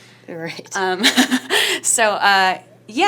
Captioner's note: laughs